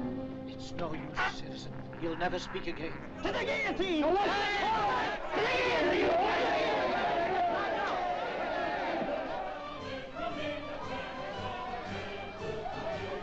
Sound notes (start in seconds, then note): 4.9 mob clamoring; 9.9 jovial music & singing